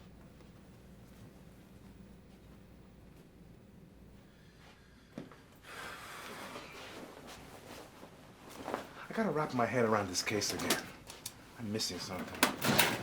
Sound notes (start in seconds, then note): 5.6 Vargas exhales loudly; 6.7 coat rustling; 12.2 drawer clatters open